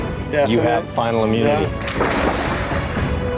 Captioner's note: water splashes